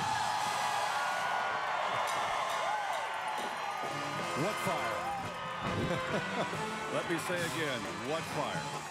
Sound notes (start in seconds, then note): 4.6 cheers and applause